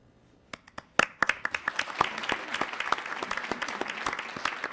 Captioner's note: attendees applauding